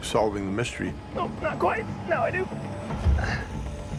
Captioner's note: straining